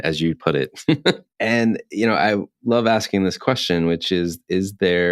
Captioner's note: laughs